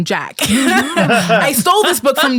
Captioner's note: all laughing